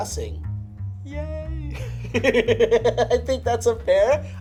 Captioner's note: laughs